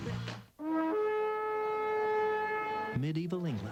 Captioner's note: horn